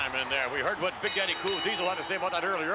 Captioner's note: bell ringing